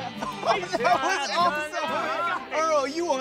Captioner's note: laughing